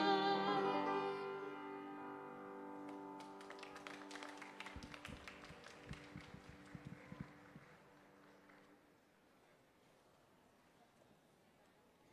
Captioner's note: applause